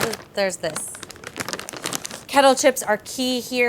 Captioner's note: bag rips